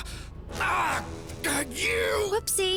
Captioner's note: impact grunt; grunting